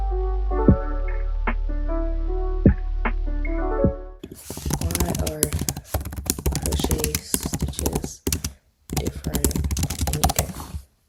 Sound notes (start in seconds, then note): 0.0 outro music plays; 4.0 simultaneously computer typing sounds